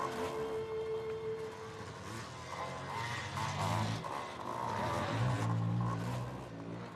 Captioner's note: engines revving